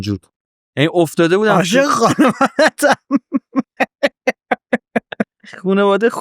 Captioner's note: laughs